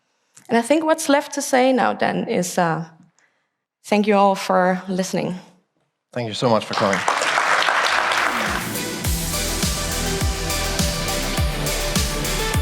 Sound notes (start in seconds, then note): 6.4 applause; 8.1 outro music